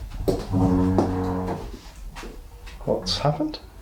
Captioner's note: scraping noise